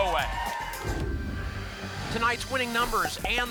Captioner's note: whoosh